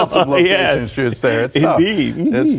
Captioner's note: laughter